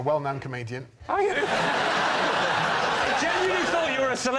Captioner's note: laughter